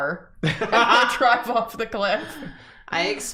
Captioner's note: laughter